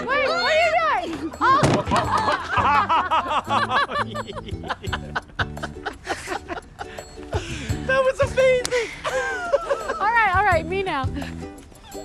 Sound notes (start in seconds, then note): 1.6 laughing